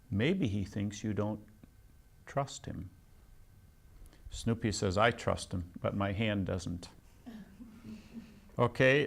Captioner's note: laughs